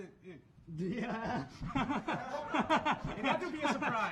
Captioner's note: specimen laughing